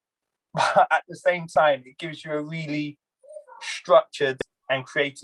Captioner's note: laugh